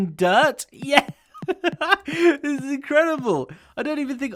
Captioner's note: chuckles